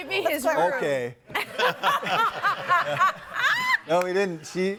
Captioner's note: audience laughing